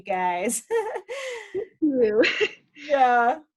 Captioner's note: laughs